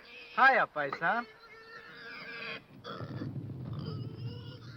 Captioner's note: pig snorting